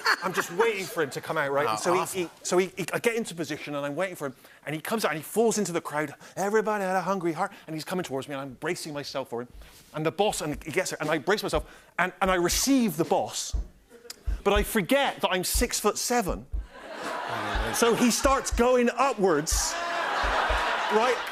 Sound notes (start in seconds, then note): 16.7 laughter